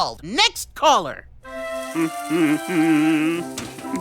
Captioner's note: humming while stamps sizzle in pan